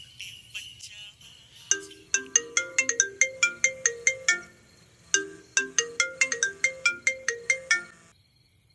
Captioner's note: incoming call